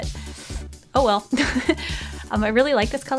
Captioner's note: snicker